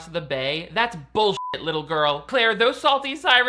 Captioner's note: beep